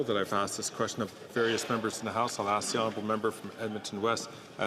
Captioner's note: some Applause